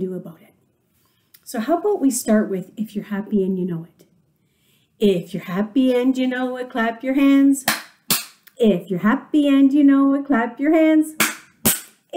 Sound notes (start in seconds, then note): 7.7 claps hands twice; 11.0 claps hands twice